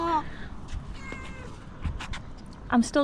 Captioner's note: meow